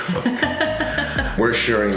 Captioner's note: laughing